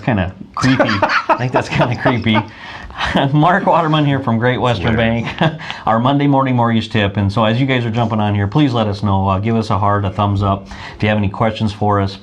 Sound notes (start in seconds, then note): 2.4 laughing